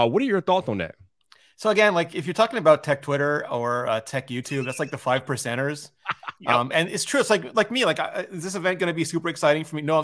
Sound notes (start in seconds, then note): 4.5 chuckles; 6.0 laughs